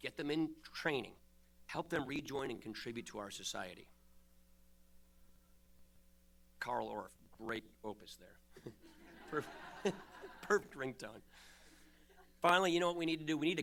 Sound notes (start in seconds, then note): 8.5 laughter